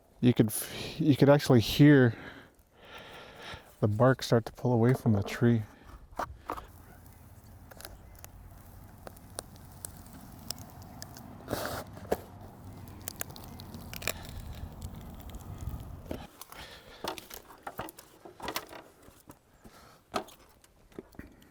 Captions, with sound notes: You could actually hear the bark start to pull away from the tree. (bark peeling off the tree)